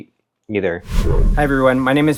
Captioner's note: screen whooshing